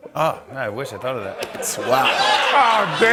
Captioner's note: laughter